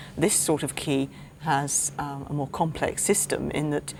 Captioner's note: none